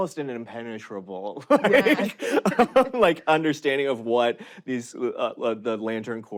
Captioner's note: laughs